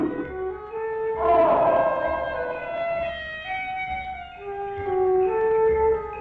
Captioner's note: Pete roaring; Rosina roaring